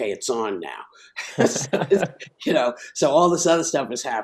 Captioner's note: laughing